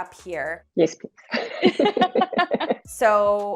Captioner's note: chuckle